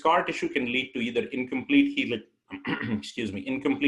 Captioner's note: clears throat